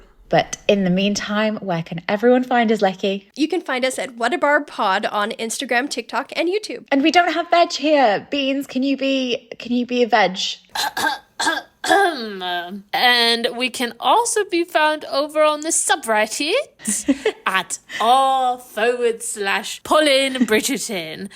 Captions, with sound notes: - But in the meantime, where can everyone find us, Lechi? - You can find us at @whatabarbpod on Instagram, TikTok and YouTube. - And we don't have Veg here. Beans, can you be a Veg? (clears throat) - And we can also be found over on the subreddit at r/PolinBridgerton,